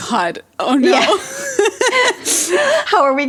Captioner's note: both laugh